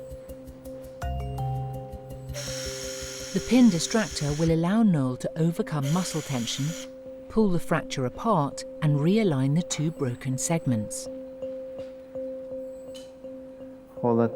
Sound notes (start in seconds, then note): 0.1 gentle tense music; 2.3 drill whirring; 11.2 gentle tense music